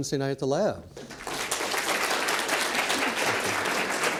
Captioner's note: audience applauds